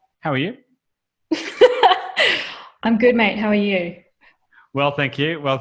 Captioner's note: laughs